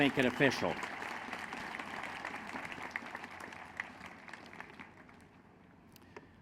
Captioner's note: applause